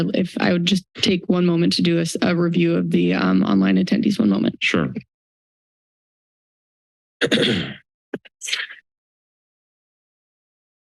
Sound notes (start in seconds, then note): 5.5 silence; 7.2 clearing throat; 8.0 silence